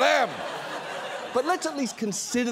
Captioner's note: audience laughs